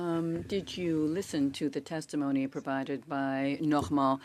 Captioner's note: speaking in French